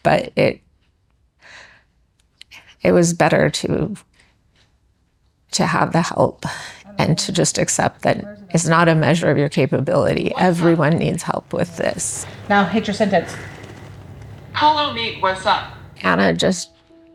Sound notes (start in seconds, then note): 14.6 iPad Speaker